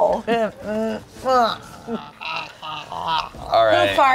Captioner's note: groans